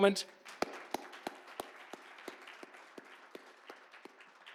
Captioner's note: audience clapping